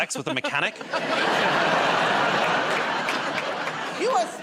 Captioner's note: laughter and applause